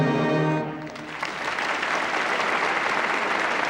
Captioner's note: applause